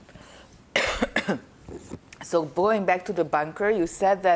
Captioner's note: coughing